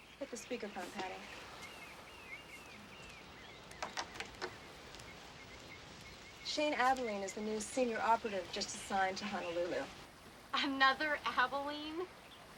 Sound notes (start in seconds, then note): 1.9 birds chirping